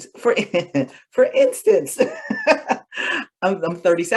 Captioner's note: laughter